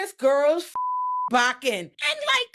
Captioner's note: beep